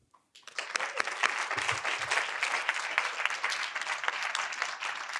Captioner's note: audience applauding